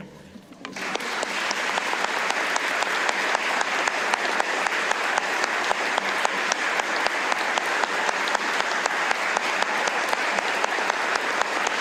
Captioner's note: applause